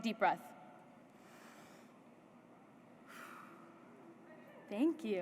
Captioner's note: breathing deeply